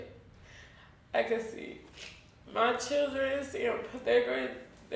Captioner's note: tearing up